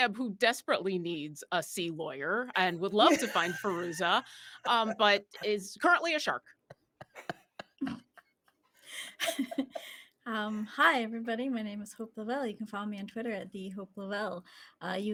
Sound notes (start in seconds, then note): 6.7 group laughing